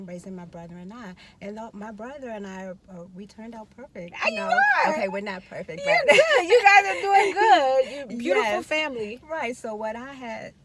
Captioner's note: laughing